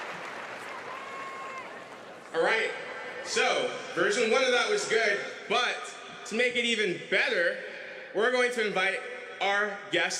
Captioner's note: cheers and applause